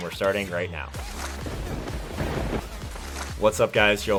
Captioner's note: thunder bangs